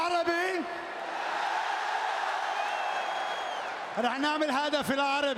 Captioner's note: applause